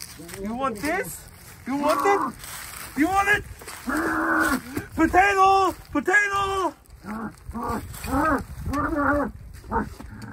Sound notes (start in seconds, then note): 6.3 happy moans